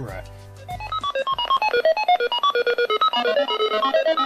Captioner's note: melodious beeping